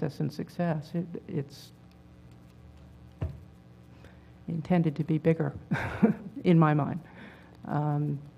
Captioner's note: laugh